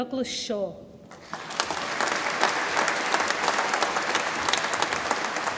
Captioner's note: audience applauds